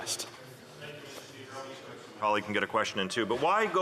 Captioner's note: speaking French